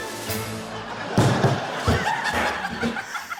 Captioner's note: dramatic musical flourish; thud!